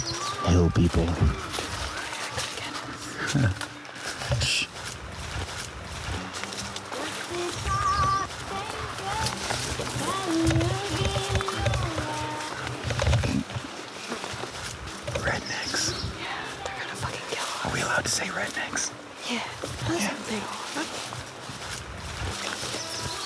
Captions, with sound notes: -Hell people. -[whispering] They could get us. [laughs] Shh! [woman singing country music] -[whispering] Rednecks. -Yeah, they're gonna fucking kill us. Are we allowed to say rednecks? Yeah, that's what they are.